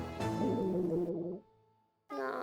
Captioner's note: rumbling